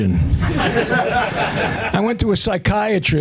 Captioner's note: laughter